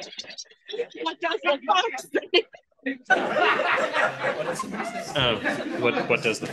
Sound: audience laughter

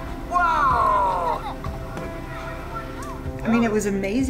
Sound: giggles

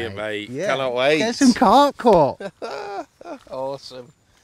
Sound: laughing

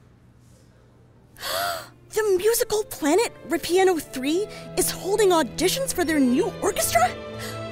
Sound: gasp!

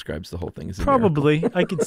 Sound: chuckles

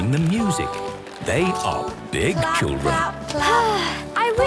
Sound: Belinda sighing

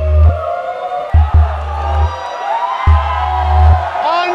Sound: all shouting

